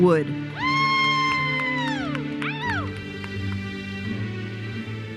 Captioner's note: audience cheers and applauds